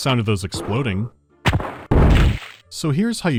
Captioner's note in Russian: пах-БУЦК